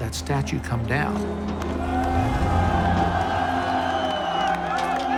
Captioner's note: crowd cheering and yelling